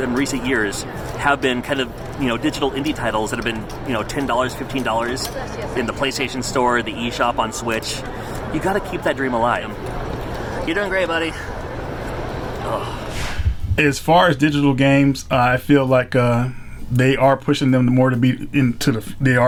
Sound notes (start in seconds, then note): 13.1 groans